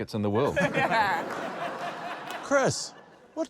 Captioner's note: laughter